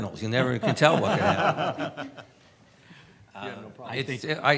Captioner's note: laughs